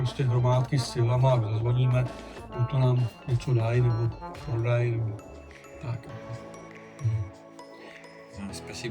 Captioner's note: using the doorbell